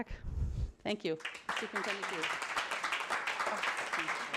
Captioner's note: applause